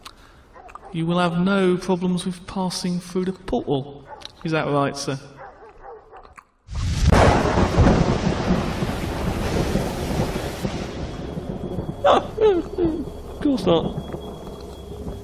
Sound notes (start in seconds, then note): 12.0 sobs